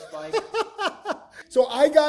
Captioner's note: laughs